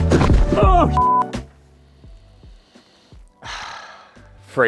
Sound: beep

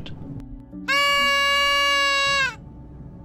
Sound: birthday whistle

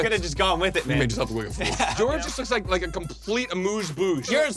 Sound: both laugh

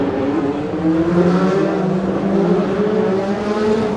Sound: car engines

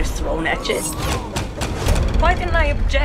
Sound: pounding noise

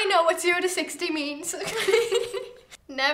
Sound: laughs

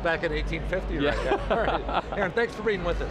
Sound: laughs

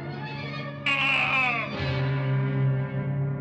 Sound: scream

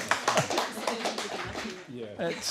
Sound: applause

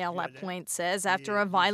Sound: speaking French

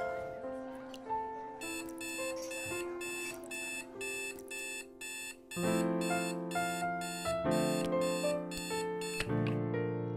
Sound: alarm beeps

